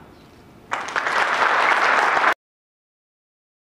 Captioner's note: applause